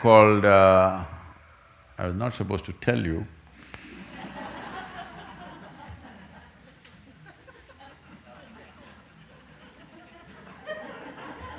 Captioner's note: few laugh